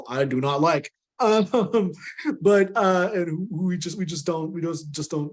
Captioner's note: laughing